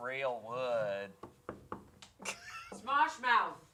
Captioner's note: tapping wood; chuckling